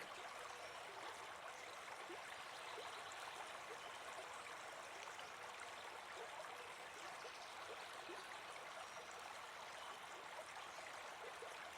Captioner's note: flowing water